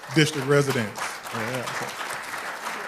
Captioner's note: applause